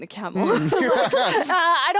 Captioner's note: all laugh